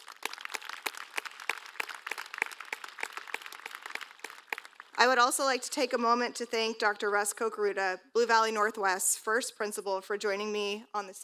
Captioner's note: applause